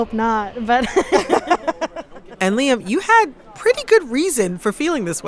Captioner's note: laughter